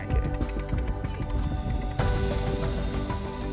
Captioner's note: cranking